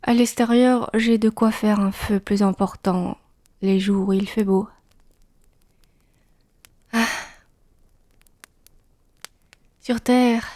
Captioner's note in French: soupir